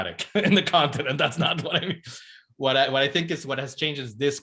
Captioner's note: chuckles